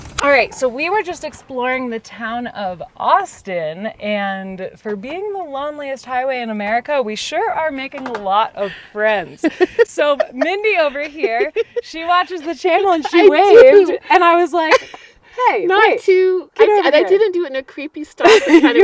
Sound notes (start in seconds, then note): 9.3 laughs